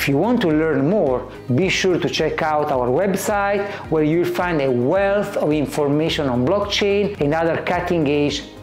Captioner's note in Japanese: 英語